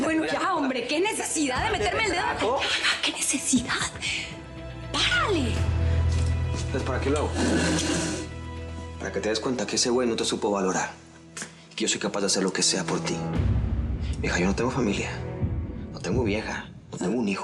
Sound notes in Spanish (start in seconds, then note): 3.5 bajando la voz; 7.4 ruido al arrastrar la silla